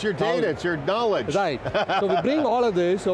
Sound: laughing

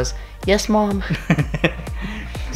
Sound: laughing

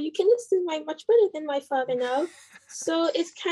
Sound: chuckle

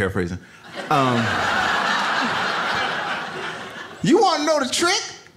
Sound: audience laughs

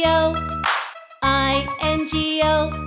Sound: hands clap

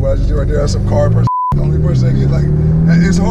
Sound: beeps

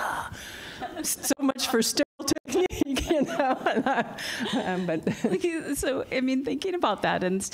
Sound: laughter

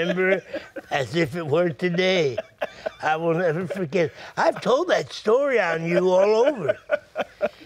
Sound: laughs

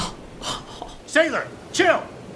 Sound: laughs

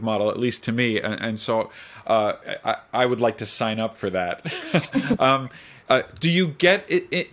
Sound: laughs

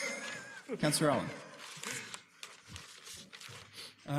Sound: laughter

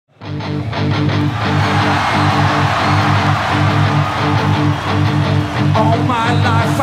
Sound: intense rock music; audience cheering; audience applauding

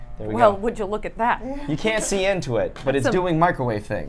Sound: chuckles

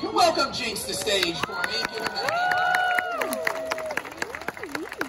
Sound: clapping/cheering

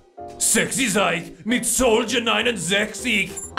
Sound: German

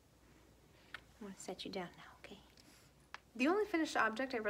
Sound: kiss

